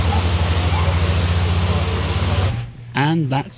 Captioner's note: aircraft engine